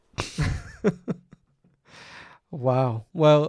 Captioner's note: laughing together